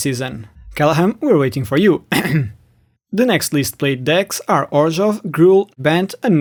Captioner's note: ahem